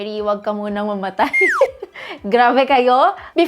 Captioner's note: giggles